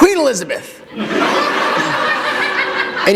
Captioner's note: laughter